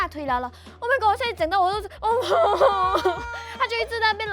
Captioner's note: choking